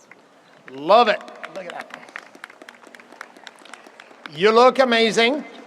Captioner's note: audience applauds